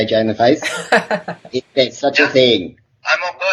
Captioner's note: laughs